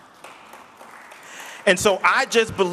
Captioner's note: audience applauding